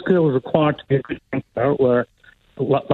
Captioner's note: technical feedback disrupts speaker